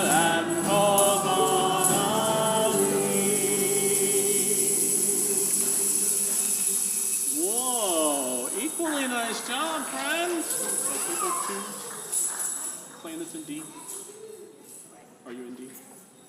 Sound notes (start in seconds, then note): 5.2 shakers rattling; 11.2 congregation applauds